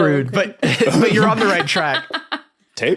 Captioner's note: guests laughing